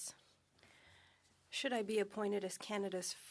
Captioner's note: speaking French